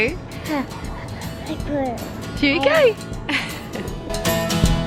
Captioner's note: laughing; upbeat acoustic music